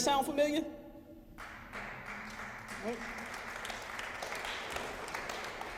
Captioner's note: applause